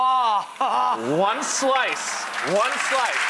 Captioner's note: applause